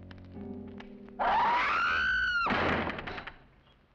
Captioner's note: woman screams